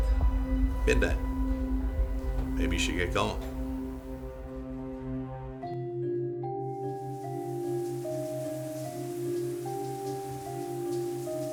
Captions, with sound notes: Did they? Maybe you should get going. (dramatic music) (water runs)